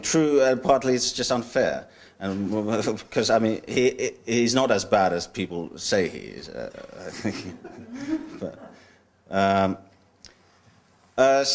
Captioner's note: laughter